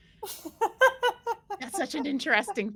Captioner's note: laughs